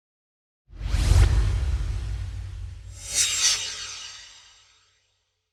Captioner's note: swoosh